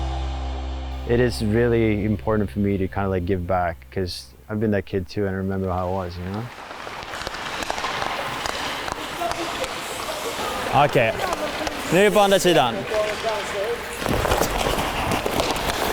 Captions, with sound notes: It is really important for me to kind of give back. 'cause I've been that kid too and I remember how it was. (hockey sticks hitting) (ice skates scraping) - Okay, move on the center. (ice skates scraping)